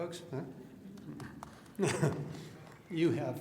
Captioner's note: applause